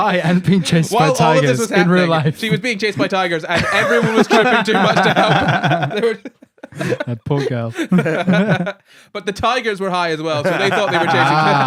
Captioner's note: laughing